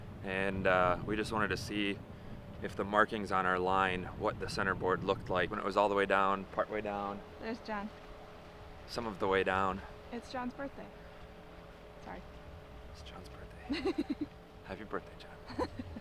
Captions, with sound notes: And uh, we just wanted to see if the markings on our line what the centerboard looked like when it was all the way down, partway down... There's Jon ...some of the way down. It's Jon's birthday Sorry It's Jon's birthday. [Laughs] Happy birthday, Jon.